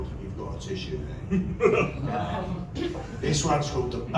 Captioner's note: laughter